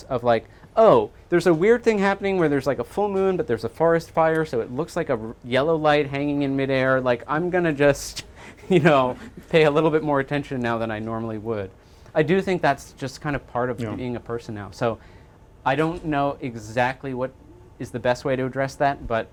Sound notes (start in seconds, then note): 8.5 chuckles